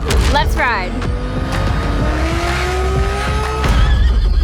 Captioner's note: engine roaring